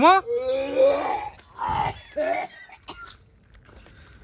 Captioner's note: vomiting Sounds